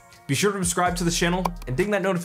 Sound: mouse clicking

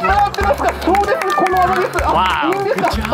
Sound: crowd applauds

